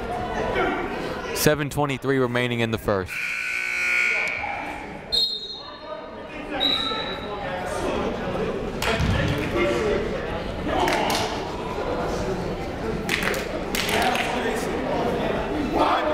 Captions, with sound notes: 7:23 remaining in the first. (buzzer ringing) (whistle blowing) (shouting) (clapping)